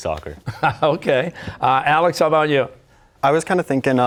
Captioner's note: chuckling